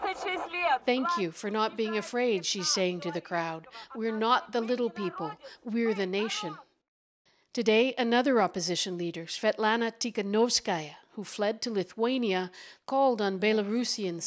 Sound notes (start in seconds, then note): 5.1 speaking Foreign Language